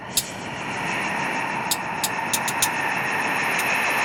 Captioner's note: fizzling